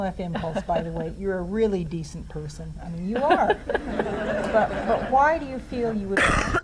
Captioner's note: audience laughs